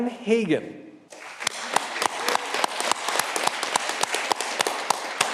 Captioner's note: audience clapping